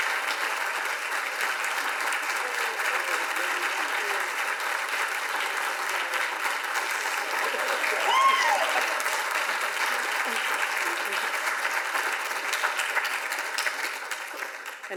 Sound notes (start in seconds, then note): 6.6 audience applauds; 6.8 audience laughs